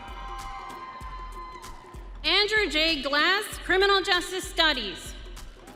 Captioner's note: audience cheering